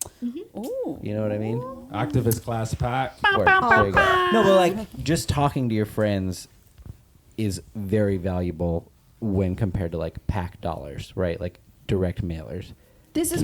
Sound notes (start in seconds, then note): 3.8 imitates air horns